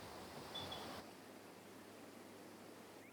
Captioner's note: birds chirping